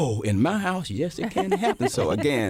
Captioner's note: laughter